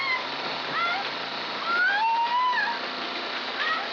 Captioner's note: screaming